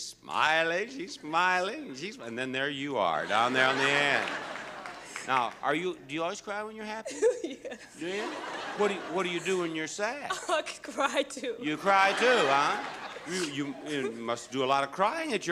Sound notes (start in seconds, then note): 6.7 sobs; 7.9 audience laughing